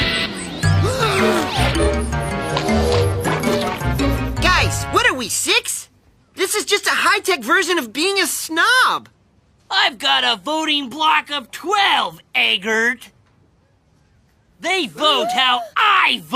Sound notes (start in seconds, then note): 0.0 screaming; 0.8 gasping; 0.8 grunting